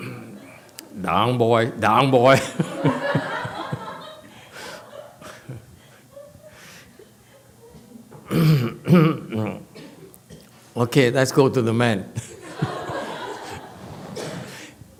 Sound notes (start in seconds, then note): 2.4 laughs, audience laughs; 10.2 clears throat; 12.2 audience laughs